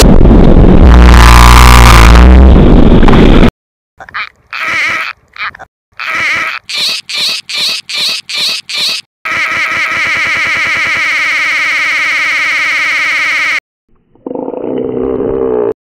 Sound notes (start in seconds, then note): 6.0 squeezing a rubber duck